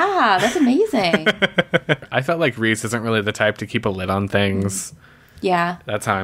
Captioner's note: laughs